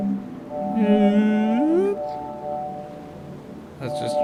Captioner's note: whale noises